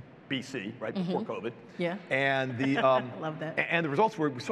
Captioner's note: chuckles